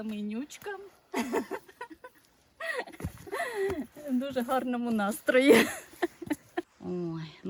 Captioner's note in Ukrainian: сміх